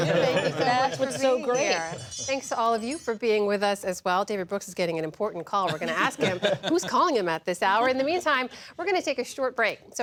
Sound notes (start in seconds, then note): 5.7 laughter